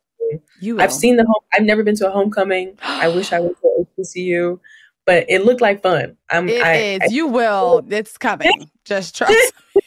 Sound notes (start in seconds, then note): 2.8 gasps